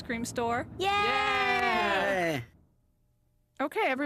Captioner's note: kids cheering